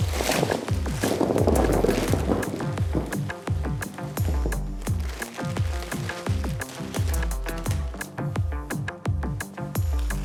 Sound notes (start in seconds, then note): 1.6 plastic crunching